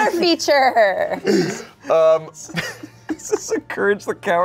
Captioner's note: everyone laughs